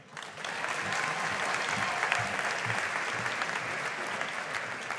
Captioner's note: audience applauding